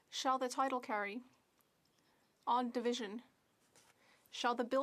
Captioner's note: speaking French